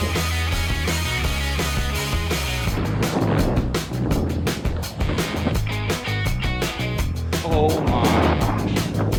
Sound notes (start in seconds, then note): 4.3 windy